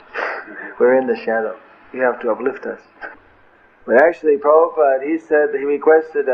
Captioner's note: laughter